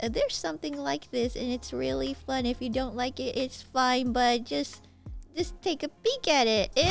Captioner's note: none